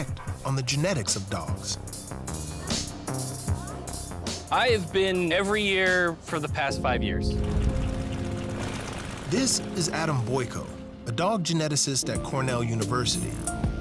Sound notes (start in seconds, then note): 2.0 mellow hip-hop music; 7.0 propellor whirring